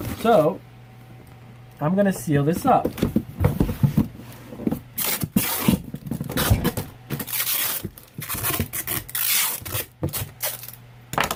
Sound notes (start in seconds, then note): 5.3 tape tearing